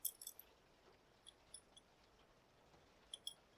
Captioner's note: rings clicking